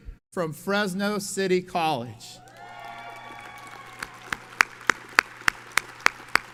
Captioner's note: audience cheers and applauds